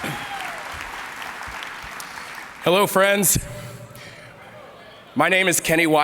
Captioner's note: applause